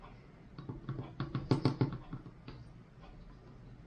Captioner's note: plastic taps